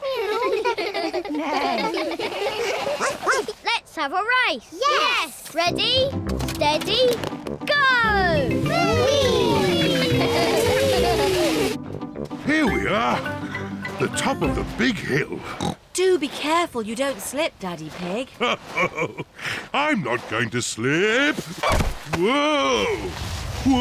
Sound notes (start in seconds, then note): 0.0 all laugh; 2.5 barks; 9.4 giggling; 15.4 snorts; 18.3 chuckles